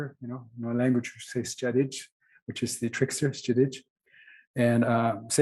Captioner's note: non-english